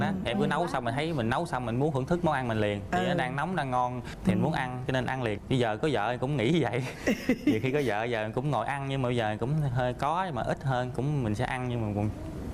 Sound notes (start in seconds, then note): 6.9 laughs